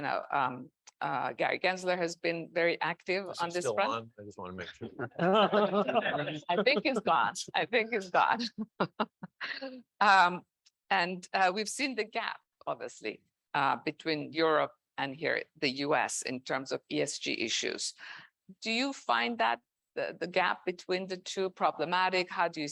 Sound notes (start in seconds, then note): 4.6 man laughing; 9.5 woman chuckling